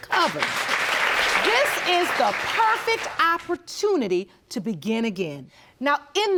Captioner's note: audience applauding